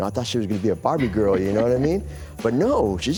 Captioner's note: laughs